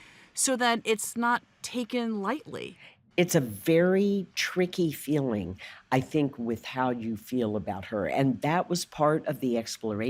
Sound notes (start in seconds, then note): none